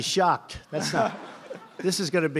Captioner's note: laughter